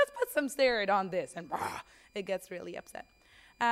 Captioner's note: growls